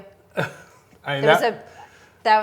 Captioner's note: chuckles